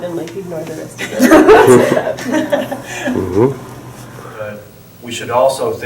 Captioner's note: laughter